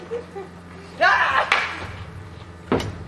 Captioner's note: Robin laughs; whack